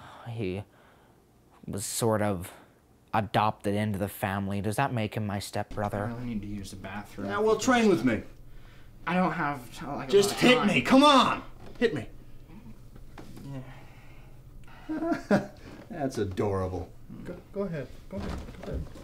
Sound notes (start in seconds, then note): 13.1 moans